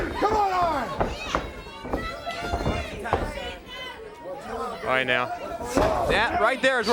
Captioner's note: crowd chatter